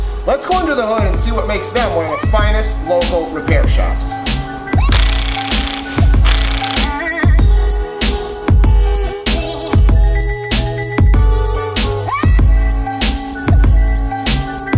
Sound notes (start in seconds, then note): 4.8 rhythmic music; 4.9 electric tool whirring